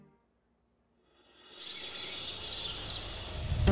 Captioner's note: birds chirping; emotional music playing